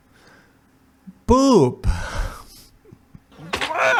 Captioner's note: laughs